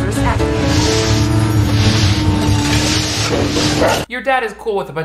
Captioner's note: floor absorbers droning; dog barking